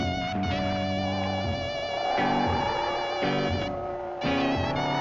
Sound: wind blowing; groaning

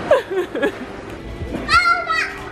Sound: laughing

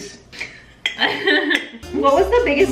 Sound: both laughing

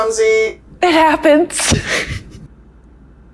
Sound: nervous laughter

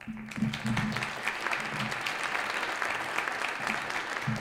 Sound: audience applauds

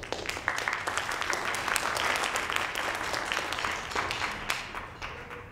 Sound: audience applauding

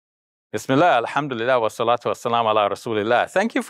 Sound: speaks arabic

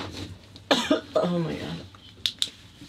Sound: coughs

